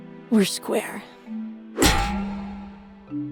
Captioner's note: boing